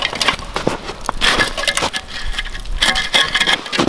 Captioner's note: metal rattling